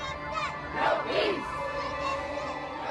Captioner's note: crowd